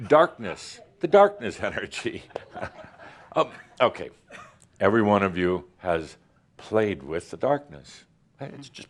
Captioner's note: chuckles